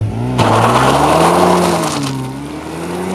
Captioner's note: sounds of tires dying